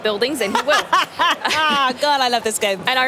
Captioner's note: laughing